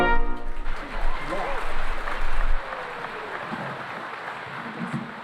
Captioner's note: cheering and applause